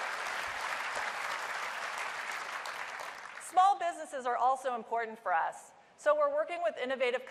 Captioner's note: applause